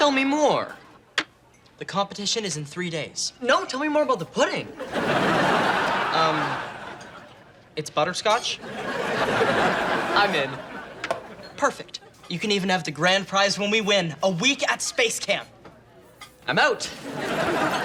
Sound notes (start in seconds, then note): 4.8 audience laughs